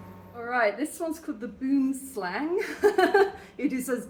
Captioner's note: laughing